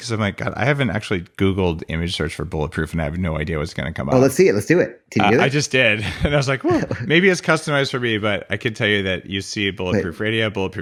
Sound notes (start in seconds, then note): 5.8 laughs